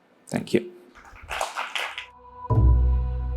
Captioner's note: applause